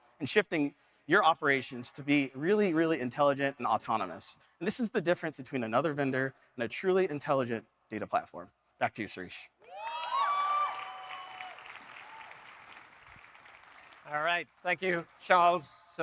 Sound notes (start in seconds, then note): 9.7 audience cheering; 9.8 audience applauding